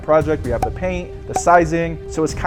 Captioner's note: effect popping